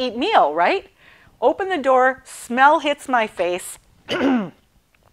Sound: clearing throat

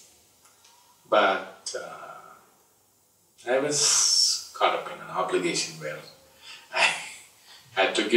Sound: laughs

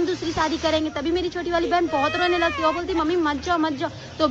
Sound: continuous yapping

